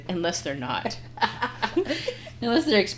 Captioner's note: laughing